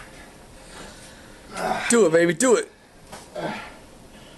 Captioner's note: groaning